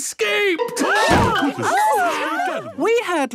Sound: all gasping

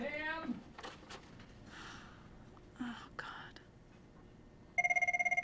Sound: sighs; telephone rings

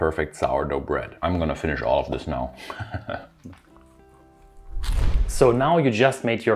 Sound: chuckling

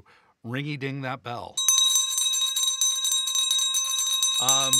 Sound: bell ringing

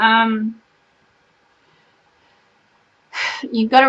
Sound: sighs

